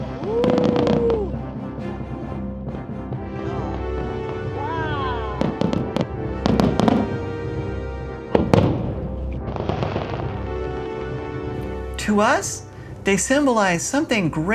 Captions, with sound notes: Modest yet meaningful. [thunder]